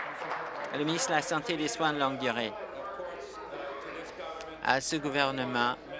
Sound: applause

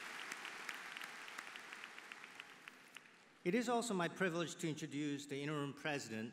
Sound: applause

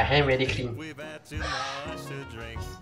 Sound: laughing like I'm out of breath

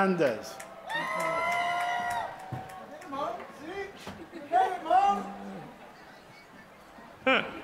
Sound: applause

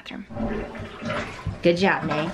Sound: toilet flushes

